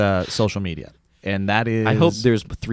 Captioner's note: laughing